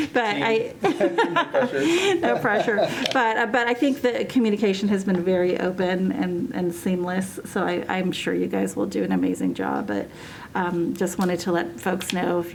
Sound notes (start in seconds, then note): 3.9 laughter